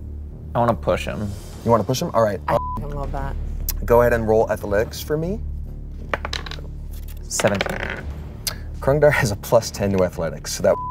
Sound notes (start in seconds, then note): 2.5 beep; 10.7 beep